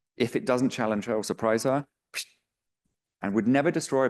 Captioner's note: imitates whooshing